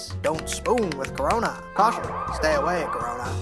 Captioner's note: siren wailing